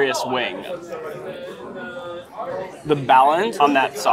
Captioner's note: people chattering